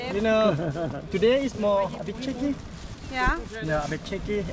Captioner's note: laughs